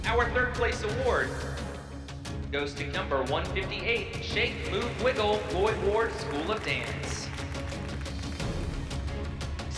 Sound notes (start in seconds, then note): 7.1 applause; 8.4 intense music